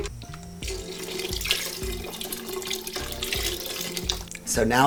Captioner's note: cutlery clattering; liquid trickles